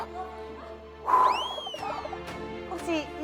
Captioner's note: sigh